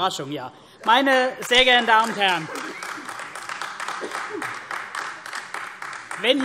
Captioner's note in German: Demonstrativer Beifall AfD